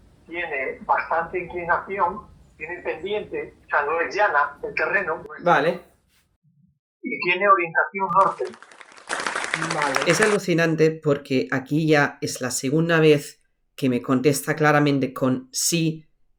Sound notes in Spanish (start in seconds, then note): 8.1 aplausos